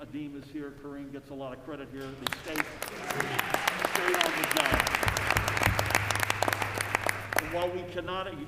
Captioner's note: applause